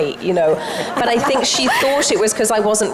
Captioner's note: audience and panel members laugh